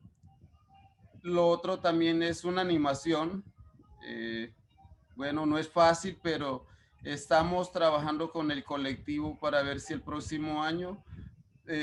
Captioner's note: speaking Spanish